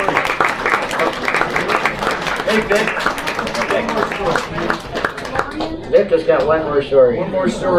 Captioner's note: applause